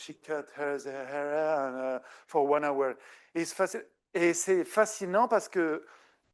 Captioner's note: speaking French